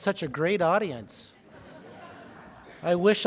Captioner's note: laughing